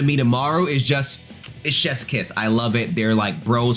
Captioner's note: lips smacking